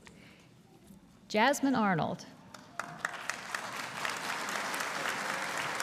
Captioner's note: audience applauding